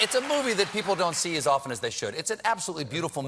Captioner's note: cheers and applause